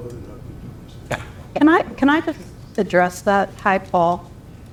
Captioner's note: laugh